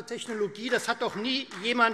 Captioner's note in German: Beifall Freie Demokraten